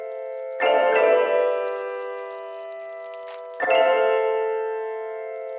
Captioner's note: bells ringing